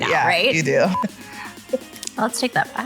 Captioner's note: beeping